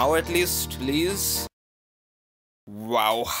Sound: another akward silence comin' right up

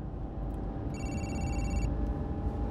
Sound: phone rings

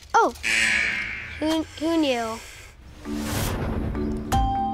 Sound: buzzer; sucks in a breath

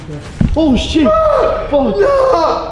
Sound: screams

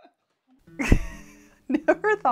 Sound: chuckling

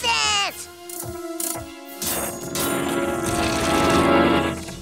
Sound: machine clicks

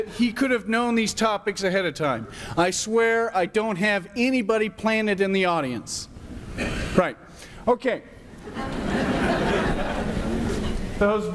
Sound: laughter

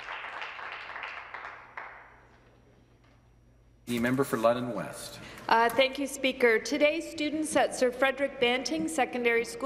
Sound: some Applause

